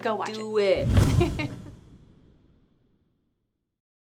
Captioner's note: laughing